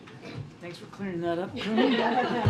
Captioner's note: laughter